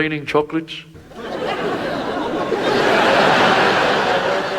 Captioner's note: audience laughs